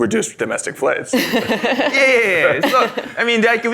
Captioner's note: laughs